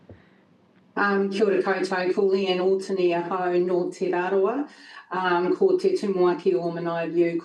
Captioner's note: speaking in foreign language